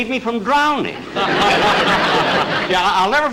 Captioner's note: audience Laughing